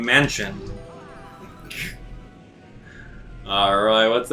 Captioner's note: gaming sounds; instrumental music